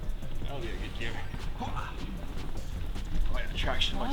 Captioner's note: murmurs